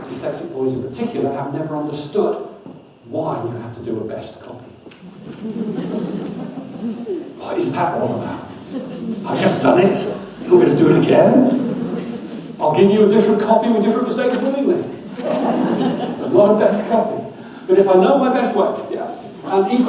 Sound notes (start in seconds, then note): 5.0 audience laughs; 10.4 audience laughs; 15.1 laughing continues